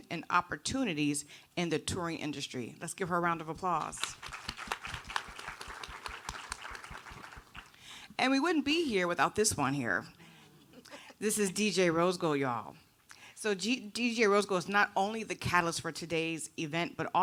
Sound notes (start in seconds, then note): 4.0 audience applauding